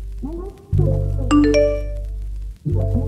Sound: notification; ding

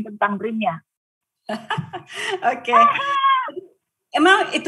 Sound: laughing

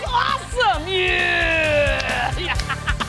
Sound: laughs

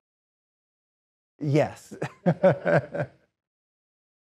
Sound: laughs

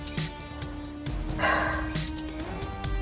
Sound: sighs

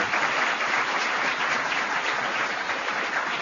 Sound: applause

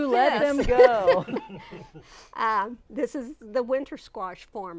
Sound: laughing

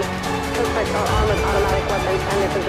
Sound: Static

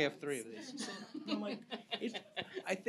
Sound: laughs

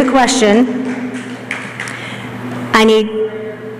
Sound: clapping

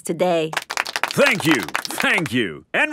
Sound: applauding

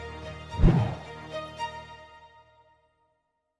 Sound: whooshing

